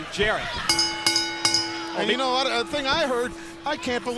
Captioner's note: bell ringing